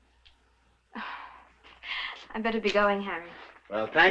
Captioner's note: sighs